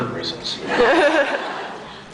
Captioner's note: laughs